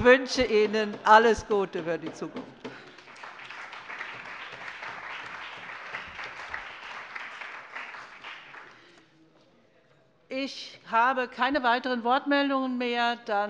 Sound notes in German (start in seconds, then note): 4.2 Beifall